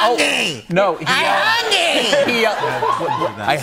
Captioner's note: laughter